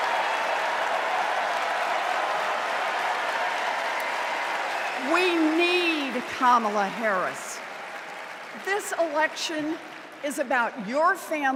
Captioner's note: cheers and applause